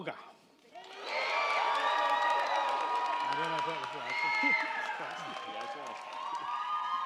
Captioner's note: crowd cheering; crowd clapping